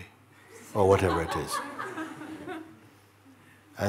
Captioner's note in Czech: smích